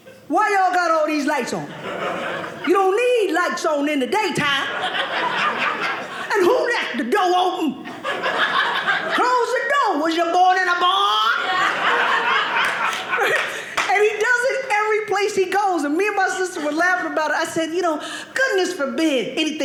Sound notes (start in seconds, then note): 7.8 audience laughing; 10.9 audience laughing